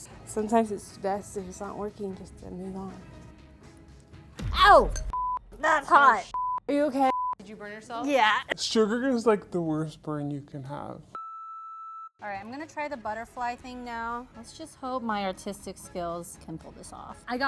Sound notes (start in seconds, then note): 7.0 beeps; 11.2 transmission beeping